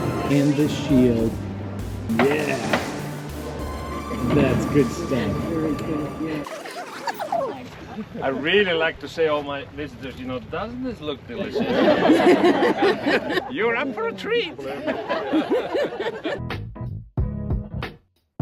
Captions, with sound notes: and the shield yeah! [laughing] that's good stuff i really like to say all my visitors, you know doesn't this look delicious? [laughter] you're up for a treat!